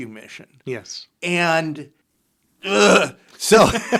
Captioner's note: laughs